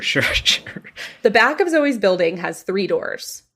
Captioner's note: laughs